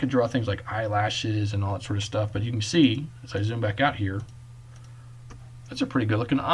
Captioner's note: clicking